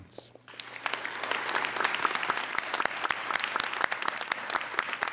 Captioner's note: applauding